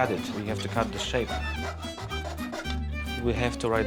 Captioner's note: cutting, sawing